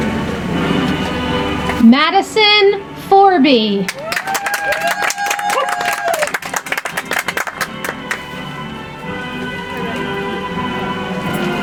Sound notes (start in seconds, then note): 3.8 audience applauds; 9.0 soft music